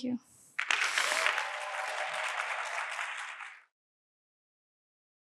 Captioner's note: audience applauding